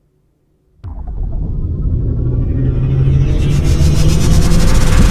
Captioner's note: electronic whirring